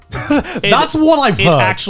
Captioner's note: laughs